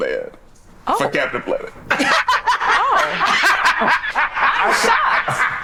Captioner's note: laughs